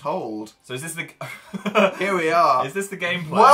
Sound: laughs

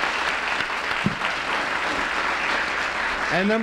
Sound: applause

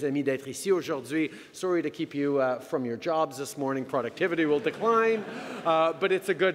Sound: laughter

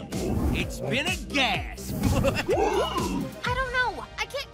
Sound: laughs

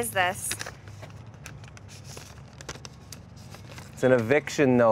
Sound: paper rattling

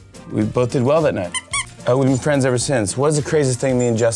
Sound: dog toy squeaks

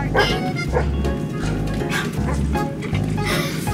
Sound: dog barks

